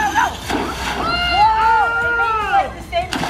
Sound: splash

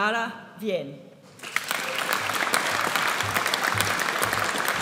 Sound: audience applauds

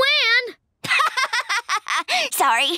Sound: laughing

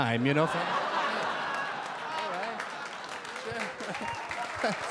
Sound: audience cheer and applaud

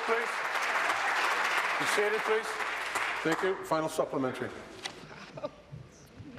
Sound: applause

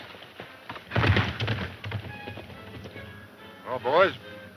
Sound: horse galloping

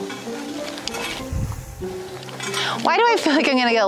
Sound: construction noise; fun music

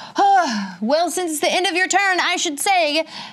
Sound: sighs

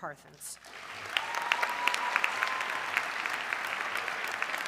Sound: audience cheering

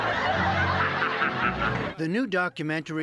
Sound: laughter

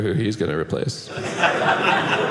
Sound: audience laughing

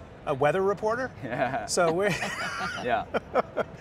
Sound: laughing

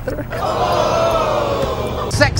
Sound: audience screaming

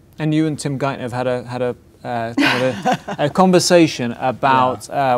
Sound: laughing

